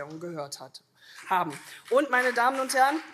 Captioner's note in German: Beifall CDU